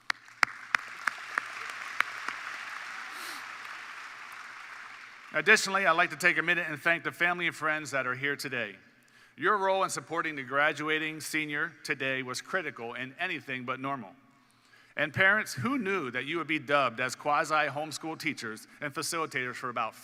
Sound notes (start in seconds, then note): 5.2 applause